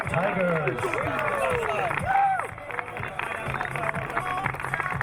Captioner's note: crowd cheering